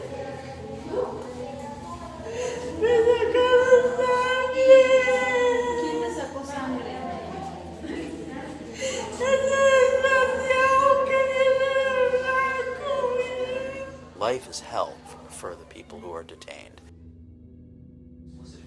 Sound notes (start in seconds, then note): 2.3 crying, wailing; 8.4 sobbing